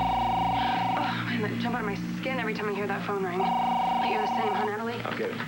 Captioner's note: phone rings; ring